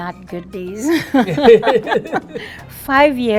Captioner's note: laughing